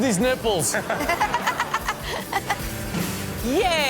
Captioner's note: all laughing; upbeat music